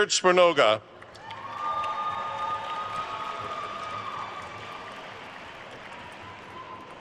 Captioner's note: attendees cheering and applauding